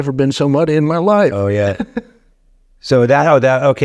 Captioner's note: laughing